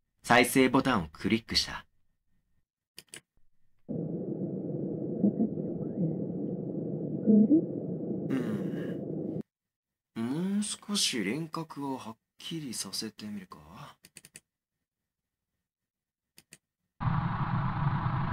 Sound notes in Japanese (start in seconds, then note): 2.6 マウスのクリック音：カチ; 14.1 マウスのクリック音：カチカチ; 16.4 マウスのクリック音：カチ; 17.2 粗いノイズ混じりの音声